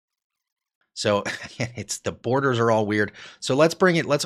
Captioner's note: laughs